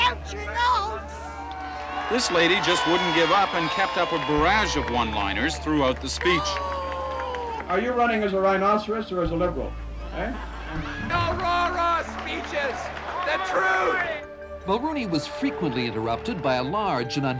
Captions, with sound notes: Know you're lost without your notes! [cheering] Reporter:This lady just wouldn't give up and kept up a barrage of one-liners throughout the speech. Boo! Are you running as a Rhinoceros or as a Liberal? Eh? No rah-rah speeches! The truth! Reporter:Mulroney was frequently interrupted